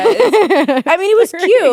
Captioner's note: both laughing